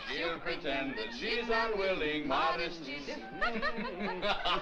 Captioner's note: laughing